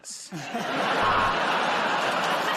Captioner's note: buzzer buzzes; laughter